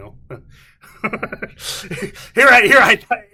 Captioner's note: laughing